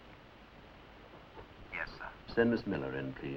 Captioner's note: on phone